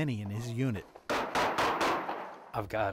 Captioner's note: gunfire